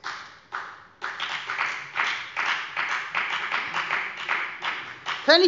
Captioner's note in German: Beifall bei der FDP